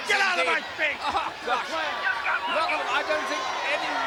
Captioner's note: laughs